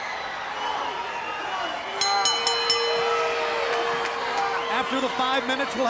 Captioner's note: bell ringing